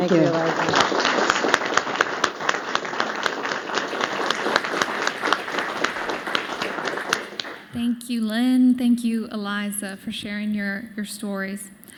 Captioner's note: applause